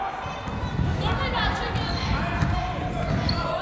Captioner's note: yelling